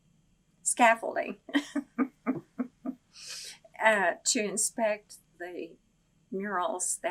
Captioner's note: laughs